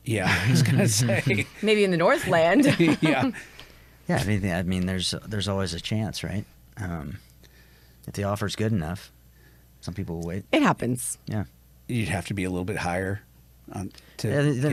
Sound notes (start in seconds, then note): 0.2 chuckles; 2.1 laughs